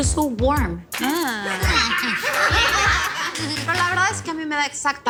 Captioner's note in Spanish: Exclamaciones; Risas